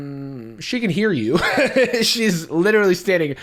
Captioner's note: laughs